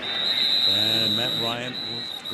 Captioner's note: whistle